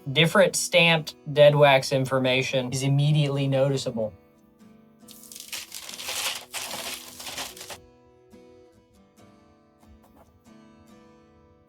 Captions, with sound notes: Different stamped dead wax information is immediately noticeable. (paper rustling) (soft music).